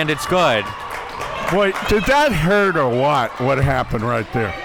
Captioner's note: audience cheering